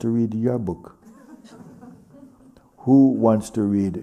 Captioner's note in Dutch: gelach